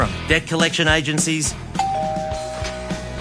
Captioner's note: doorbell rings